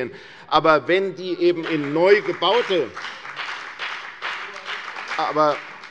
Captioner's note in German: Beifall bei der FDP und bei Abgeordneten der CDU